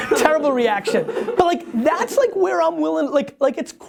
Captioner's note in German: Lacht